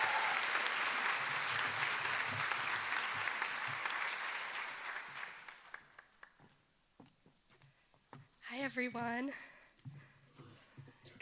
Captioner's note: applause